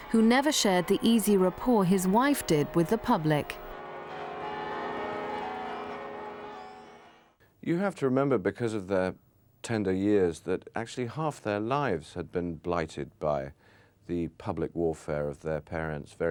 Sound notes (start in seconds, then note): 4.3 church bells pealing